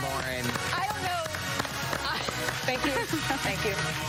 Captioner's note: applause